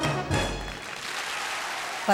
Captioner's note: applause